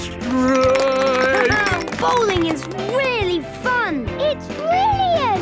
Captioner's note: clapping, laughing